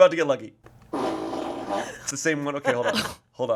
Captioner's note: fart machine farts